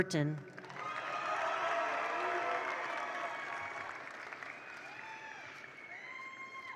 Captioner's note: attendees applaud; attendees cheer